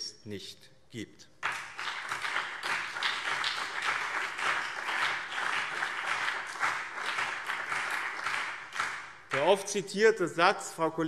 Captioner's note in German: Beifall BÜNDNIS 90/DIE GRÜNEN und CDU